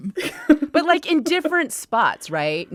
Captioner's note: laughter